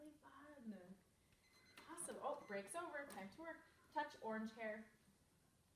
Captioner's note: timer beeps